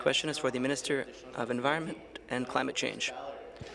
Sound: speaking in French

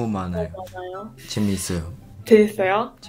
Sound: Korean

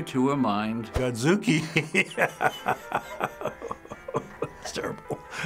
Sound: laughs

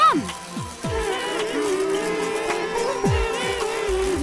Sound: humming

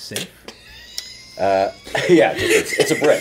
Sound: laughing

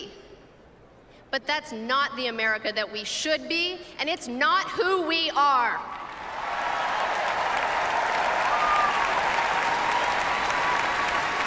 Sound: applause

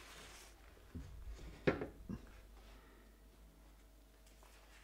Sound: paper scratching

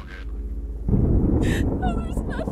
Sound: thunder crashing

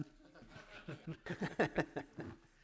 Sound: laughs

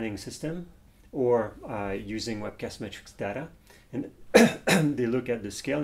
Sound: coughing

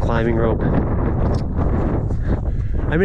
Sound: wind howling

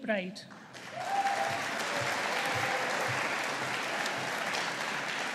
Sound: audience applauding

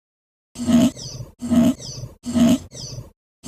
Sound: machine sound

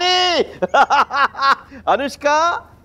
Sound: chuckling

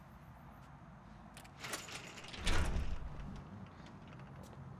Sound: door creaking

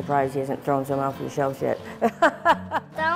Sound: laughs

